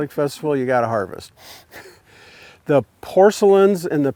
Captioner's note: chuckles